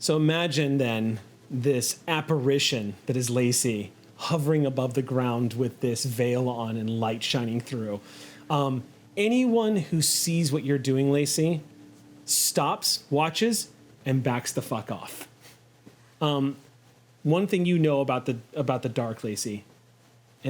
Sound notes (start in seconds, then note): none